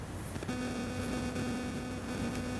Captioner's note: buzzing